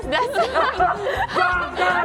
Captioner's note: giggles